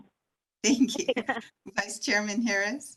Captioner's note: laughter